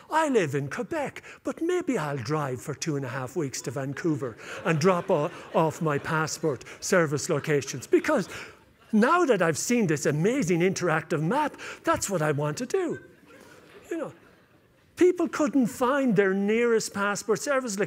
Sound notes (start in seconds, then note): 12.6 laughter